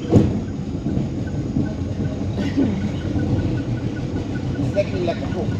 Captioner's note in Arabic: طنين محرك القارب